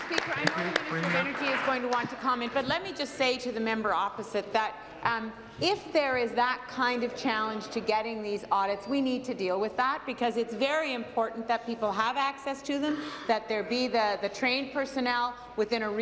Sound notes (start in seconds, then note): 2.5 applause